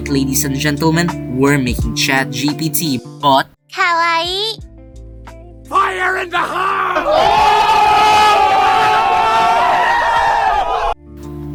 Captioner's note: japanese anime girl voice